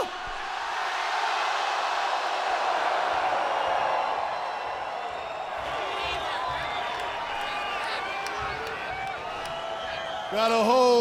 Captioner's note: crowd cheering